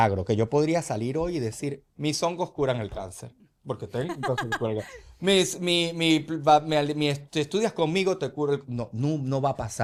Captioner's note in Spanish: risas